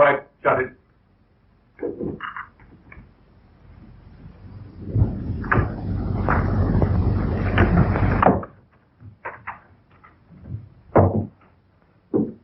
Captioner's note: pounding